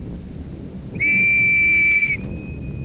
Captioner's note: blowing whistle